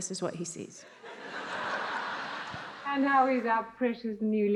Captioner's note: attendees laughs